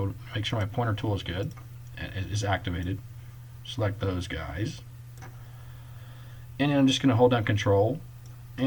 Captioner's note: click